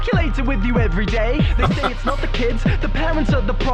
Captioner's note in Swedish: chuckles